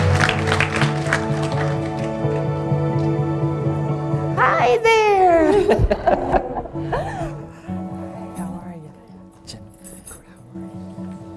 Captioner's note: applause